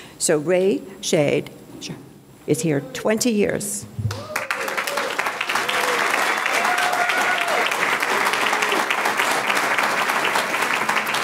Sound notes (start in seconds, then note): 4.0 audience clapping; 5.6 audience cheering